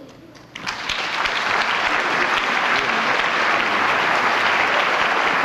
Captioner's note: applause